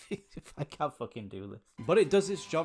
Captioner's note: laughter